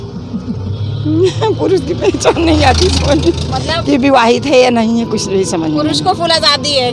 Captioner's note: laughs